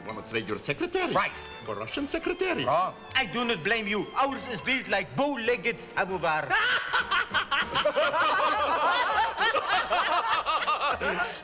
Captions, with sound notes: - You wanna trade your secretary? - Right. - For Russian secretary? - Wrong. I do not blame you. Ours is built like bowlegged samovar. - [Laughs] - [Russians Laughing]